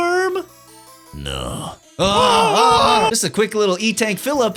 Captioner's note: both screaming